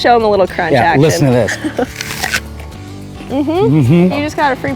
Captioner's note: apple crunches